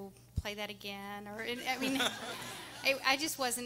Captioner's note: everyone laughing